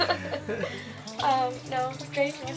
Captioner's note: laughing